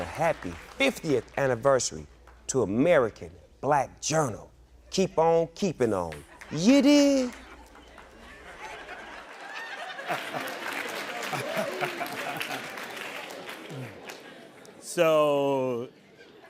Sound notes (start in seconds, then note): 8.5 audience laughing; 10.8 audience applauding